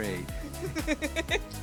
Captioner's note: laugh